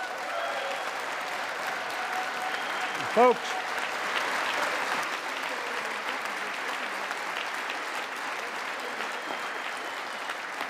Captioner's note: applause